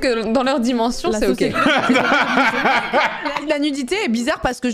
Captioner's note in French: rires